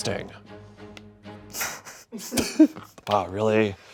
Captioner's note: laughs